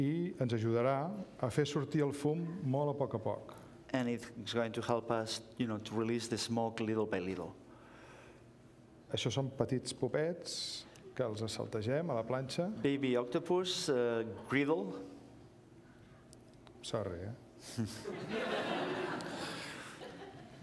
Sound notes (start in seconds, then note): 1.7 speaking catalan; 10.5 speaking catalan; 18.0 laughter